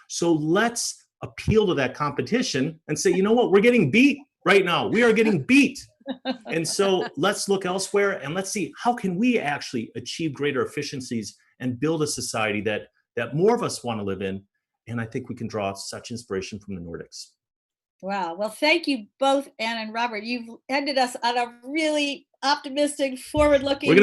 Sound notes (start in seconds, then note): 6.1 laughs